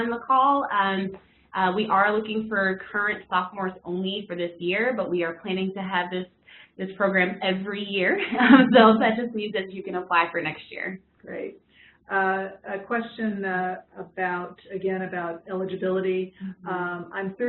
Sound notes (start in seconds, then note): 8.2 laugh